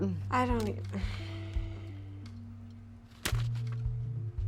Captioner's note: Cassidy stammering